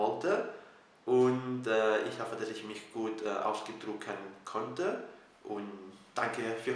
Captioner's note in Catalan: en alemany